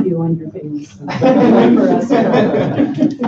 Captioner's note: laughter